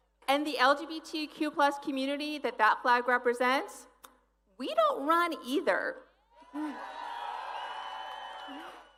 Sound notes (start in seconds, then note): 1.6 applause